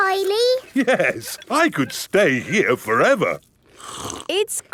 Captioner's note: slurps